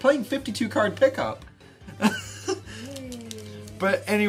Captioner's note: laughs